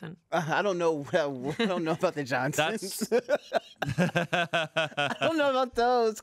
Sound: laughs

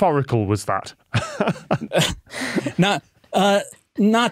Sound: both laughing

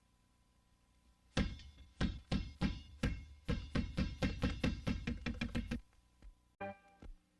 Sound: basketball dribbling

